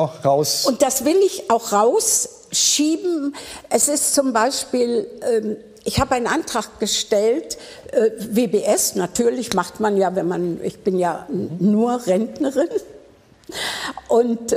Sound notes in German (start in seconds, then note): none